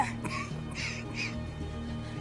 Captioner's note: Rothman coughs